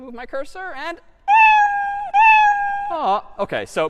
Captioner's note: meowing